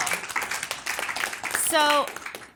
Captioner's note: audience applauds